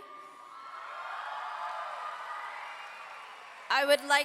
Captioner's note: audience clapping and cheering